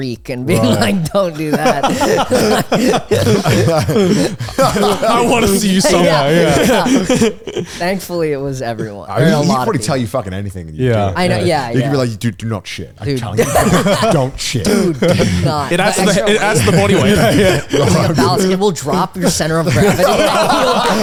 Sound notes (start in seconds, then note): 2.2 all laughing